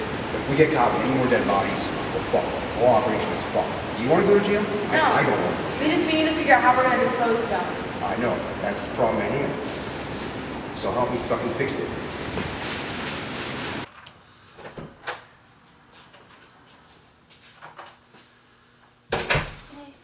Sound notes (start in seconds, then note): 12.9 rustling noises; 14.6 door opens; 19.1 door closes